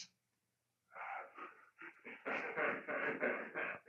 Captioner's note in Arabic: يضحك رجال الشرطة